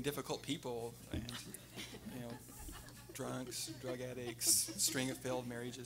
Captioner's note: everyone laughing